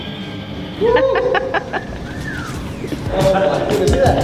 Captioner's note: woman laughing; upbeat music